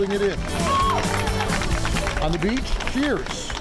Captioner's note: crowd applauds